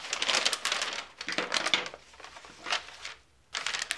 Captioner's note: rustles